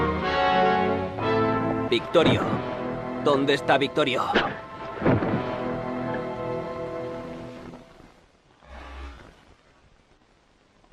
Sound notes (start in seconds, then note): 3.2 speaks Spanish